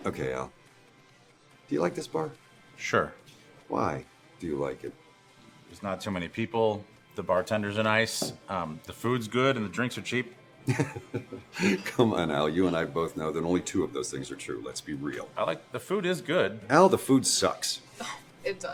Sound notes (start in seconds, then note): 10.6 Jimmy laughs